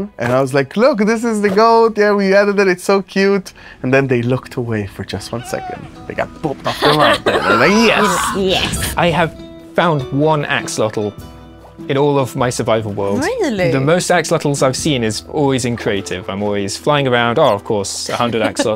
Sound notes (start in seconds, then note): 5.3 bleating; 6.6 laughs; 18.0 laughs